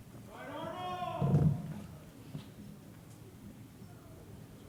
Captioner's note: person shouting